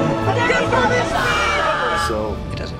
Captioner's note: commentators cheer